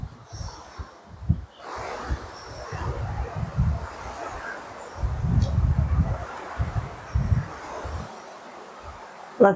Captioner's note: sound of Rushing Water